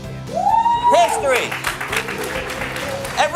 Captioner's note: cheering crowd